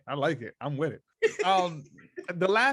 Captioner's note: laughs